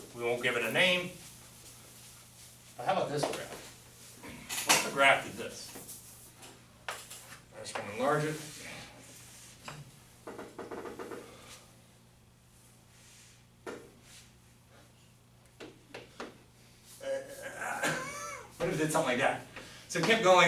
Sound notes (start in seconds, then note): 17.0 groaning